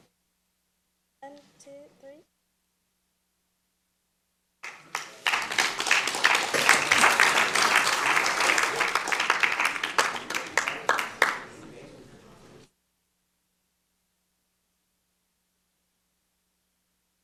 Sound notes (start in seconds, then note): 9.4 applause